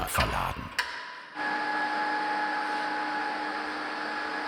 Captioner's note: high-pitched whirring